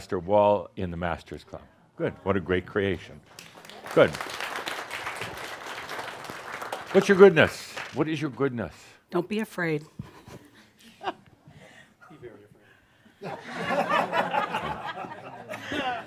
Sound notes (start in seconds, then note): 3.3 audience applause; 10.1 chuckles and someone says, “Be very afraid” and some laughter